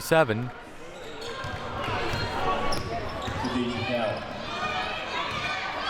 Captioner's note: audience chattering and yelling